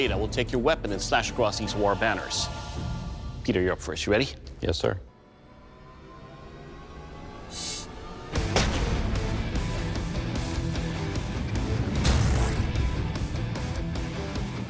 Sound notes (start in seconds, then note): 4.9 rock music; 8.0 blade impacts